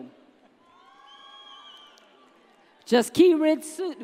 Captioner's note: audience cheers